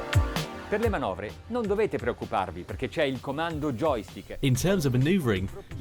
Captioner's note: man speaks in foreign language